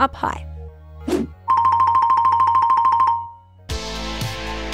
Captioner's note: photo whooshes; quirky sound; upbeat music